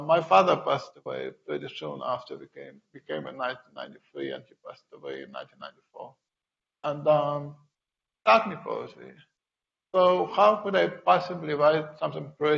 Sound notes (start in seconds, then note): 7.0 speaking in foreign language